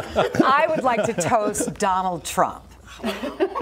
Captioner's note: laughter